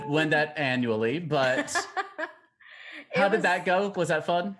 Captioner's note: laughing